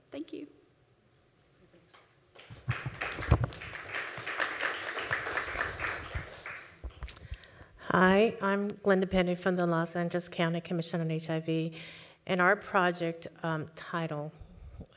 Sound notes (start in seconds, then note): 6.8 applause